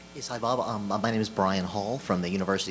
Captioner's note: voiceover